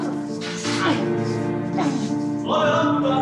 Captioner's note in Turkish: Boğuşma sesleri